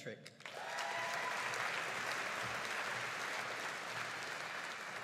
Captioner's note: audience cheering and applauding